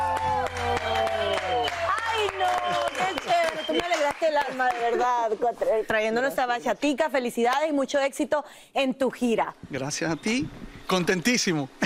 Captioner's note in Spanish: aplausos